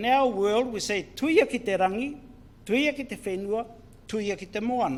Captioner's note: foreign Language